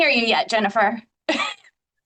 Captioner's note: chuckling